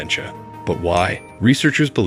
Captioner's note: bell dings